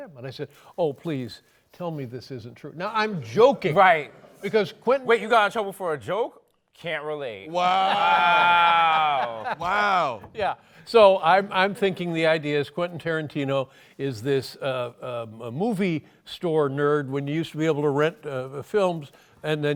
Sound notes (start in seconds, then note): 7.7 laughter